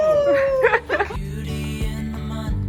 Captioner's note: laughing